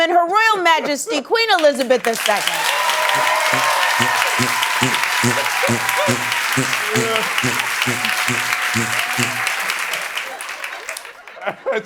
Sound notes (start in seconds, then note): 2.9 repeated flatulence; 7.2 cheering and applause